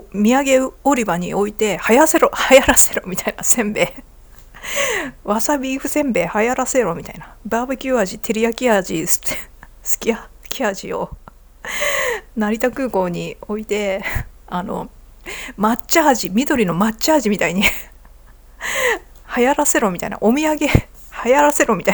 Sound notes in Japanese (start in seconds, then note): 2.4 笑い; 4.5 息をのむ音